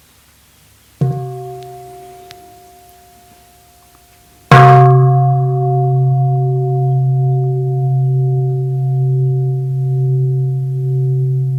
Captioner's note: sound of the bell